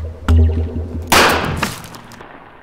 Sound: bam

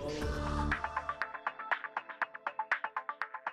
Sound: digital tones

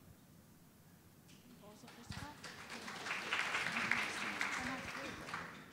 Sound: audience applauding

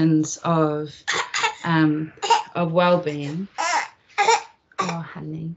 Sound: baby coughs

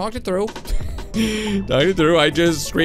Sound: laughs

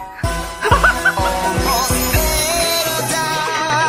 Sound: laughter

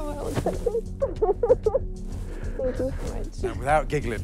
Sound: giggles

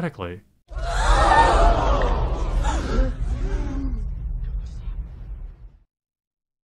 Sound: crowd gasping

